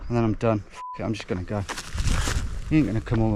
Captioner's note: beep